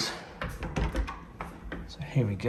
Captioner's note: door rattling